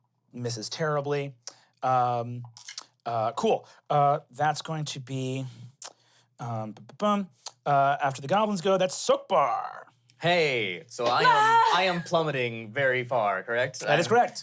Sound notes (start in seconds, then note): 11.0 yells